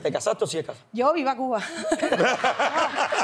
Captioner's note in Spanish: Ríe